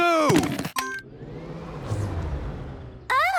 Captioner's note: car chimes; whirring, whirring stops